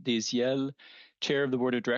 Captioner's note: speaking French